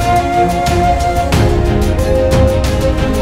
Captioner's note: Mouthing